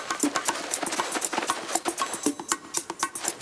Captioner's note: rustling